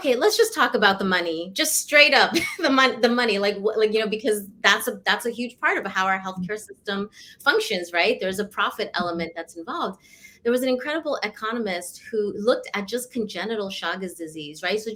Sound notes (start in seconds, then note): 2.3 laughter